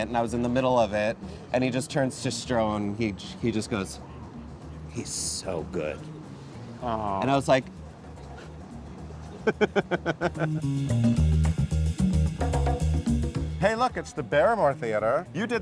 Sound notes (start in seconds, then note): 9.2 laughs; 10.7 upbeat music